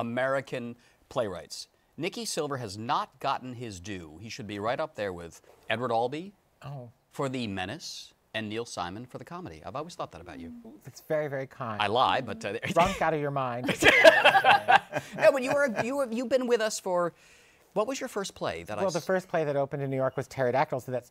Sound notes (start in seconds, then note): 13.6 laughter